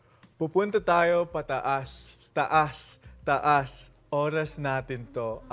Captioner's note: in Tagalog